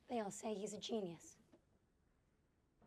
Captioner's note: none